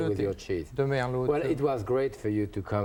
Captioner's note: speaking French